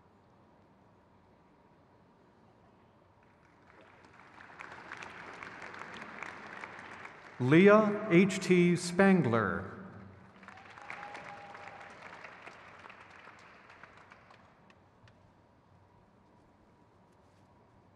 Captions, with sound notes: Zeynab Abaghi. (crowd claps)